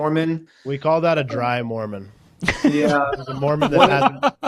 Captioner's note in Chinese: 笑声